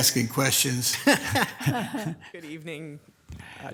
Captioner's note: laughing